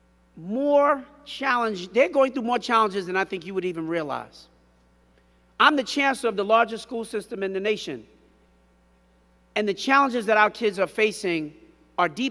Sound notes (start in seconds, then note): none